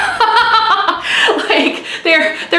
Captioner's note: laughs